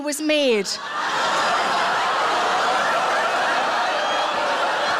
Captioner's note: audience laughing